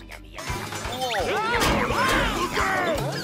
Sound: yelling

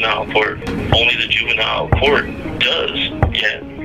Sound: gavels echoes on sound block several times; synth music continues

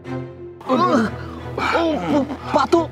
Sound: groaning in pain

